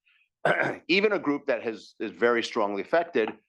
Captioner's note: cough